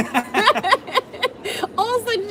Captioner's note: laughter